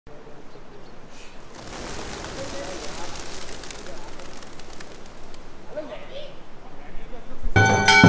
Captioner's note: pigeons flying